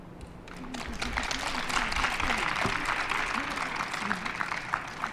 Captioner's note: applause